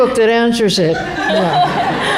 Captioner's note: laughter